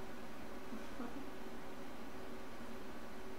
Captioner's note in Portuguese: Risos